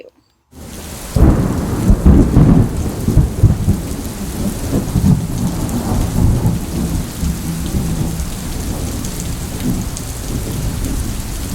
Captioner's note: ran and thunder noises